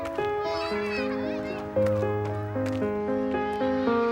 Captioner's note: children laughing in distance